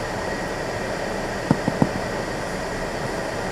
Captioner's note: knocks at the passenger window